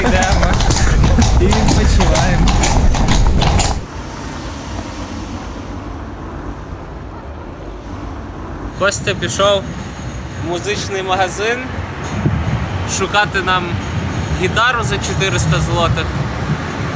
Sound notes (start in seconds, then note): 4.4 street noise